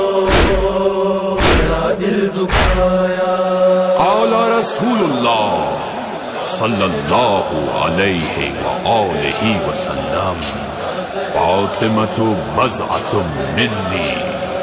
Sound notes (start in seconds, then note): 8.0 saws